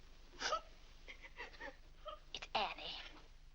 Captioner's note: Annie weeps